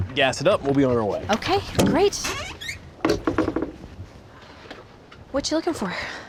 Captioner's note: creaking sound